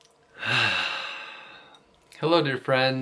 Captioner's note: deep breaths